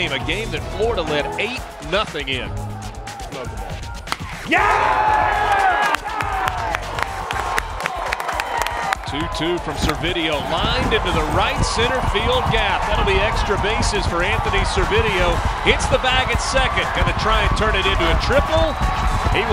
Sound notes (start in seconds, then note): 3.4 crack; 4.5 crowd